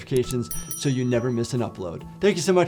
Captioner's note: bell dings